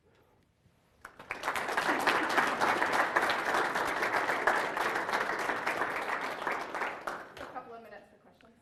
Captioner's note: applause